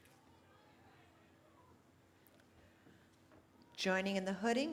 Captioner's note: cheering